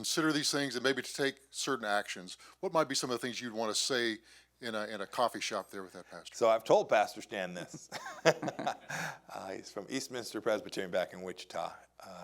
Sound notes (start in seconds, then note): 7.6 Mike laughing